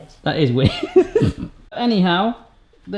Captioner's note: laughs